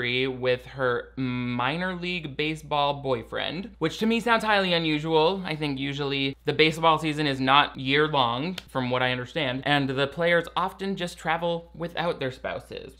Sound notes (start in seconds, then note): 8.5 claps hands once